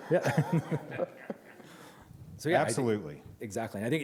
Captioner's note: laughter